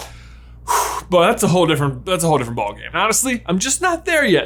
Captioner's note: sighs